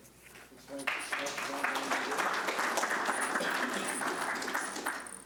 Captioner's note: audience applauding